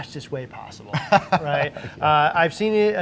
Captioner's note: laughing